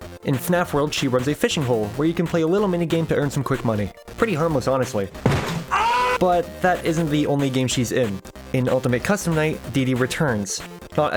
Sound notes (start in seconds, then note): 5.3 xqc foot slam and scream